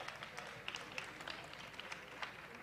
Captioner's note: applause